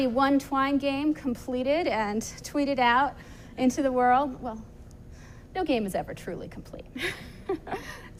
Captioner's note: laughs